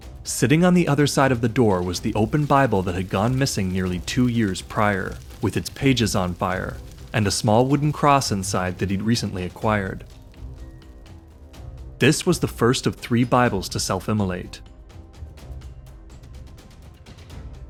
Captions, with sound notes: Sitting on the other side of the door was the open Bible that had gone missing nearly two years prior, [burning] with its pages on fire, and a small wooden cross inside that he’d recently acquired. This was the first of three Bibles to self-immolate.